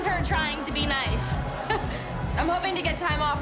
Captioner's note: scoffs